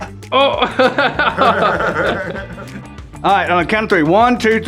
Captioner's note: group laughter